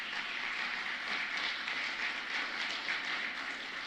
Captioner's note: applause